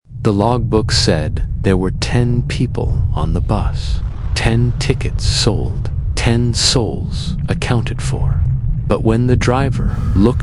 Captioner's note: low rumbling drone; heavy breathing